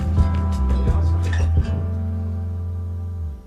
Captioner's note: applause